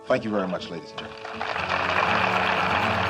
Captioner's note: applause